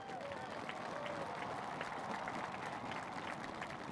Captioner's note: cheers and applause